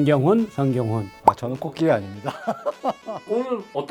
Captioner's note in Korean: 웃음